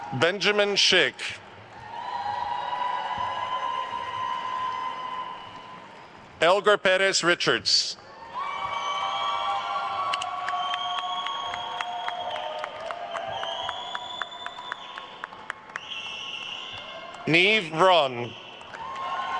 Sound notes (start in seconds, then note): 1.4 attendees cheering and applauding; 8.4 attendees cheering and applauding; 13.1 attendee whistling; 19.1 attendees cheering and applauding